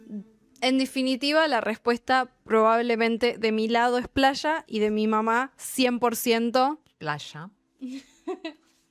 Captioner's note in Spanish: risas